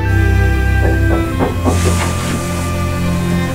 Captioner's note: door knocking